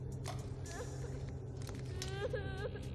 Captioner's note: MarIene crying